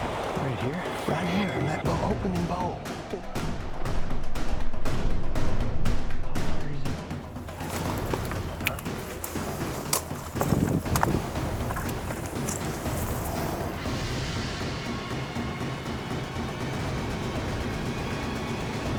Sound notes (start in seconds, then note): 4.2 intense music; 7.6 snapping fingers; 11.0 rifle safety clicking; 14.9 suspenseful music intensifies